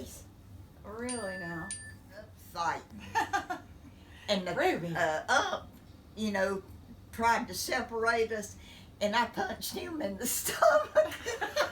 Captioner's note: laughing